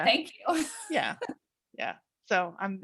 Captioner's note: laughs